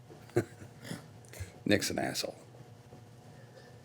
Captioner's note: laughing